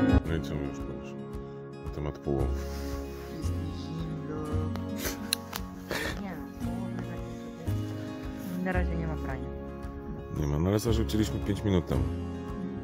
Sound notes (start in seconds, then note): 4.9 laughing